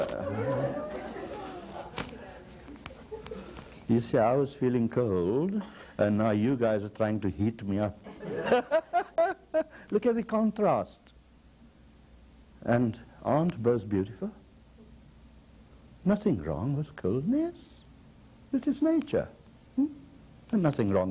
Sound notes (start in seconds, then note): 0.0 laughter and remarks; 8.0 laughter